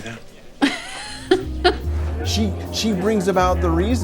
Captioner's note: Rita laughs